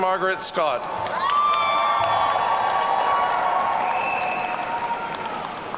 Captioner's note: audience cheering